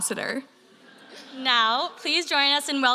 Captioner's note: audience laughing